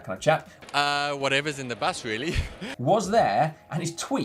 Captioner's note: laughs